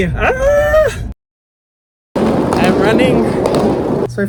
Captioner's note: Hyram yelling